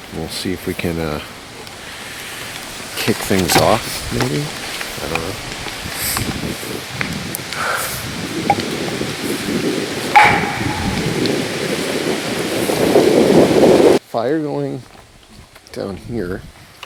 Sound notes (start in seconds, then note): 8.3 tree knocker taps; 10.1 tree knocker bangs; 11.0 wind gusting